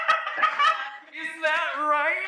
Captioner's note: agonized laughter